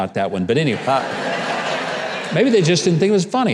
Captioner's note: audience laughing